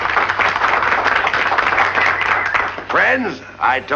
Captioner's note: applause